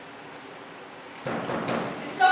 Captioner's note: knocks again